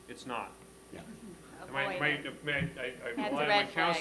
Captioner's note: laughter